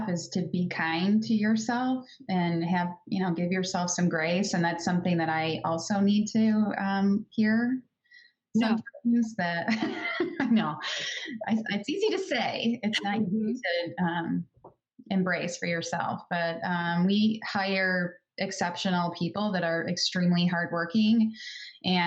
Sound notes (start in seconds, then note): 12.5 laughing